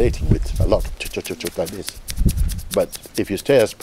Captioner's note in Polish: dźwięki paplaniny